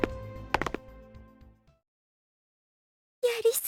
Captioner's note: silence